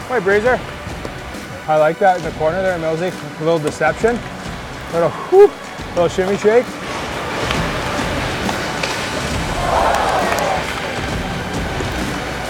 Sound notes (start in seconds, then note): 5.0 woo; 9.5 crowd goes oh